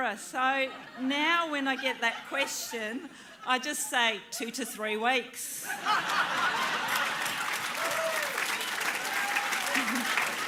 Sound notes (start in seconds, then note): 5.6 laughter, applause